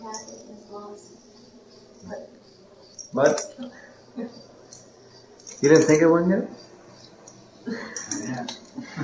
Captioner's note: laughter